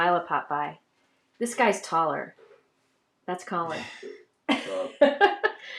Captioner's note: laughs